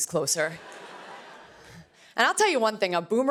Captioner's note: laughter